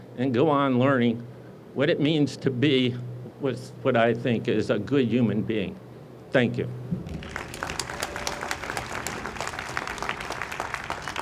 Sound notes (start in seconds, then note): 7.0 audience applauds